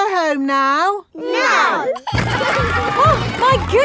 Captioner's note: giggling